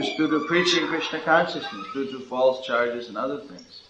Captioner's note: creaking sound of doors being opened